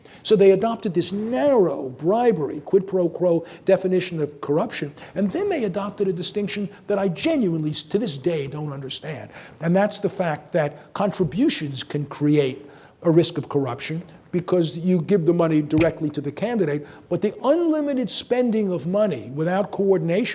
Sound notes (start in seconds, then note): none